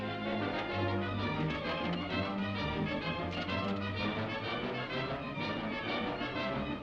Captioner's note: horse hooves clopping; dramatic music